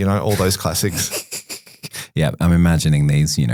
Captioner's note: chuckles